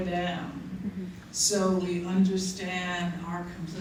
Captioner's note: none